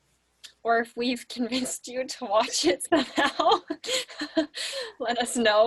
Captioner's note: laughing